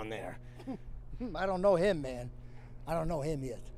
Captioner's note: chuckles